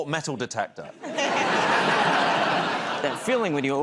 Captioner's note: laughter